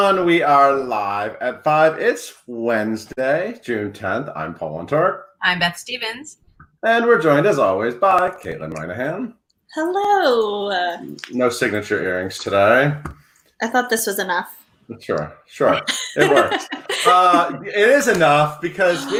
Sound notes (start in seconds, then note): 15.6 laughing